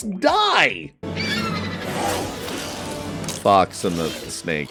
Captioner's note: screeching